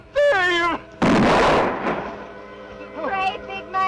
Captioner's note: gunshot